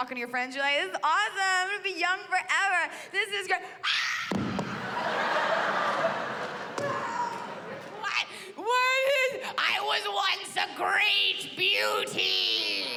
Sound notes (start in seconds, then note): 3.8 screams